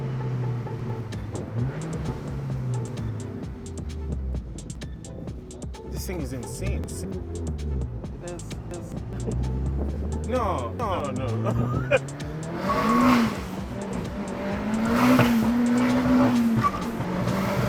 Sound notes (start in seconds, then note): 12.5 engine revving